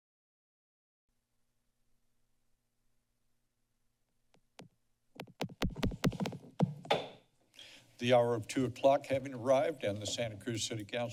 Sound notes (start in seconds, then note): 0.0 silence; 5.2 mic tap; 7.2 gavel tap